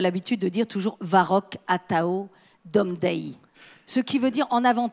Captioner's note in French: Elle parle breton